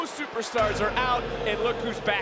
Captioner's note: ominous chime rings